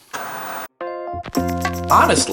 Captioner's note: static buzzing; lively music